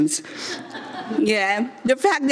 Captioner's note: audience members laughing